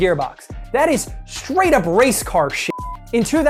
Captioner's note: beep